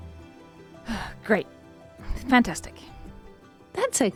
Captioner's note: sighs loudly